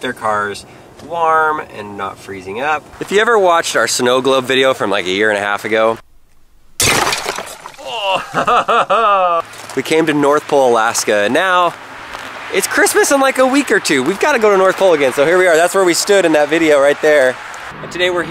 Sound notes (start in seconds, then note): 6.7 glass breaking; 7.8 laughing